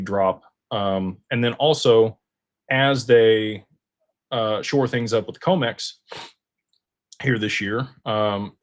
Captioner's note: snorts